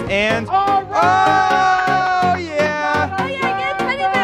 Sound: all cheering

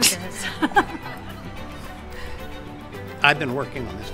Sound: laugh

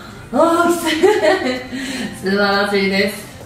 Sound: laughs

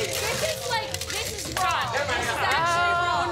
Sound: shouting

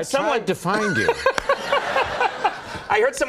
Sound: laughter

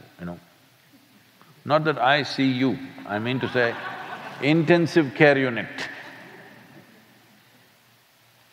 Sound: laughter

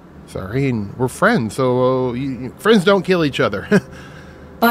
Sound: laughs

